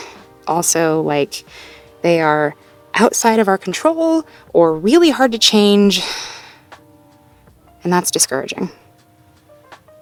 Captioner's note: sighs